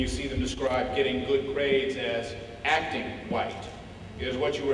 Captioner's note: none